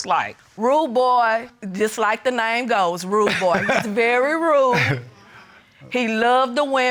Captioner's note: chuckles